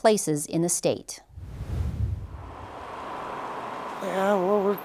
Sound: transition whooshing

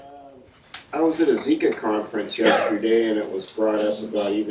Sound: voiceover

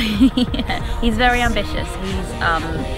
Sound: laughs

